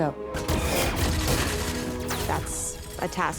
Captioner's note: gunfire blasts